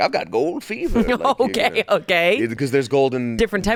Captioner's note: laughs